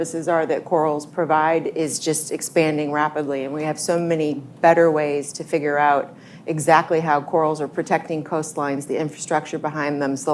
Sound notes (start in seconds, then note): none